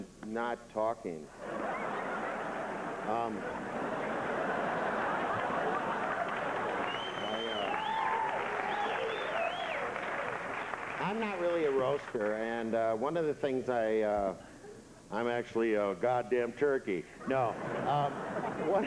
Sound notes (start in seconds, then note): 3.5 laughter and applause